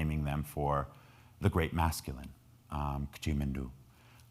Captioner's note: speaking in foreign language